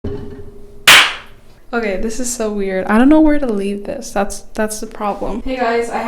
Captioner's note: claps = syncing the audio